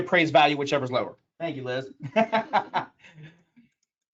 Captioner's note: laughs